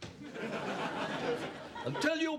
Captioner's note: laughter